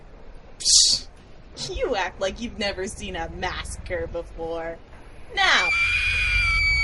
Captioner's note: A woman's loud, blood curdling scream